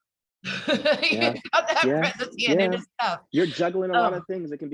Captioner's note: laughs